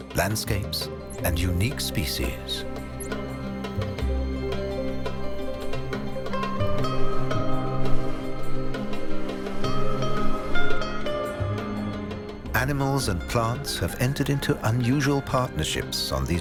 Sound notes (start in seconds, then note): 3.2 birds chirping; 3.2 light music